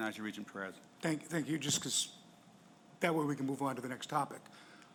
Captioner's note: voiceover